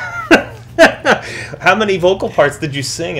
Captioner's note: laughs